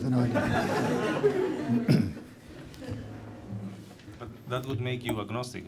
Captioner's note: laughter